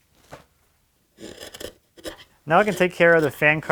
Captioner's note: chisel scraping